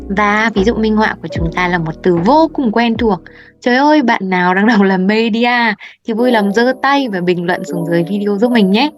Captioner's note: Vietnamese